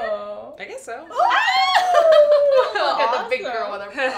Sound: laugh

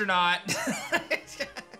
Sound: laughs

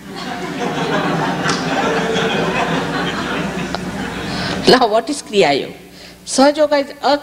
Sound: laughter

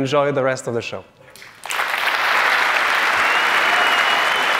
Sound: applause

